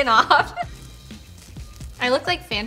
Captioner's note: laughs